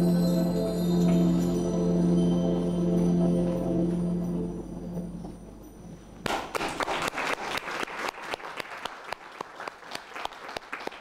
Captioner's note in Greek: χειροκρότημα